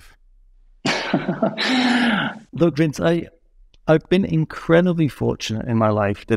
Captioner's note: laughing